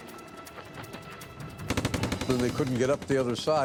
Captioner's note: tense music; guns firing